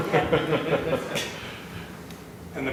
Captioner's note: laughter